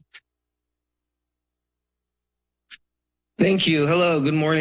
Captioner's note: silence